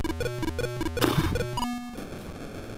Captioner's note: pfff